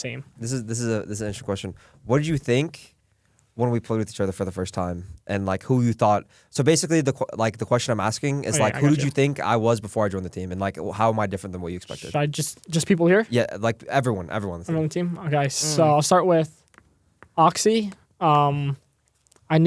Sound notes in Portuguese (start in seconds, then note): none